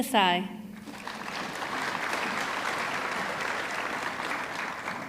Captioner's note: audience clapping